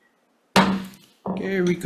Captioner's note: gavel pounds